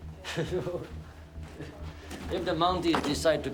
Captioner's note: person laughing